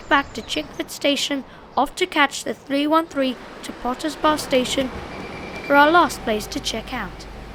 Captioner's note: Oyster card noise